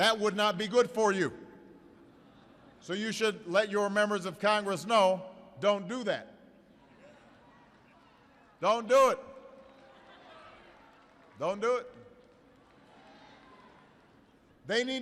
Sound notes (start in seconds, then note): 1.9 laughter